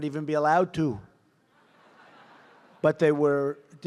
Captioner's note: laughter